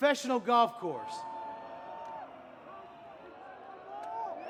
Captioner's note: audience booing